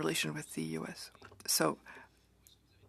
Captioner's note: speaking French